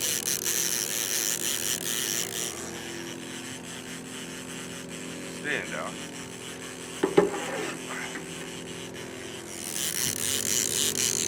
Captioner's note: reel cranking